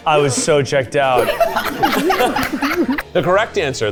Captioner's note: everyone laughing